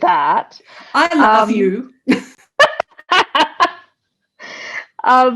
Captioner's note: laughs